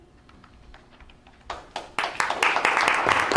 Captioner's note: applause